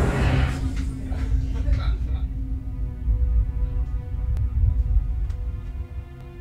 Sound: family laughing in background; soft dramatic music

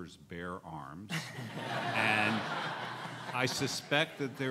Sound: laughing

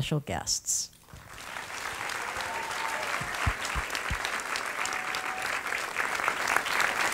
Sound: applause

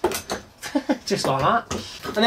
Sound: laughs

